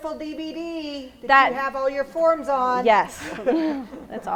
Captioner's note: laughs